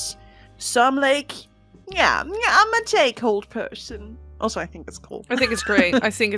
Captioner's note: laughs